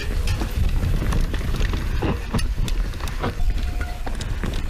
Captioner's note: bicycles rumbling